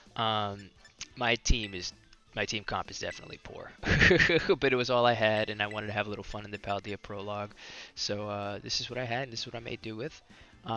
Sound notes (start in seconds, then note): 3.5 laughs